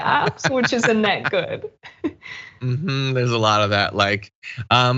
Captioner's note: laugh